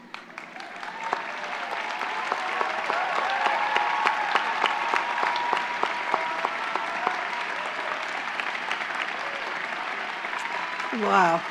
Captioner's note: applause